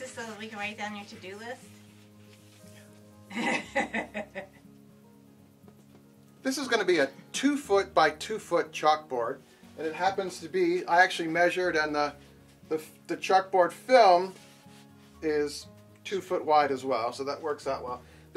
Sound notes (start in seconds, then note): 3.3 wife laughs